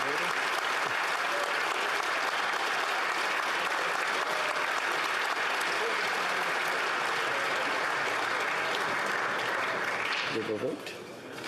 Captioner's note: applause